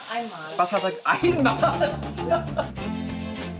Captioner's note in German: lacht; Fröhliche Musik